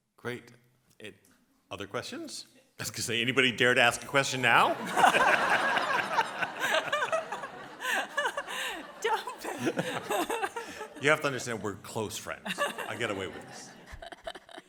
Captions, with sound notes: - Great. Other questions? I was going to say, anybody dare to ask a question now? (audience laughs) - Don't. (laughs) - You have to understand, we're close friends. I get away with this.